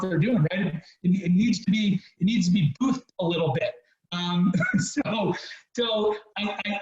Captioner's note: laughs